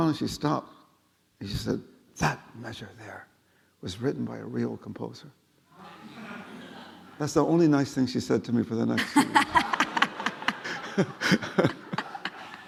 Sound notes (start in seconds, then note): 5.8 audience laughing; 9.0 laughing